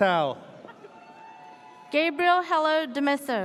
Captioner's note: audience cheers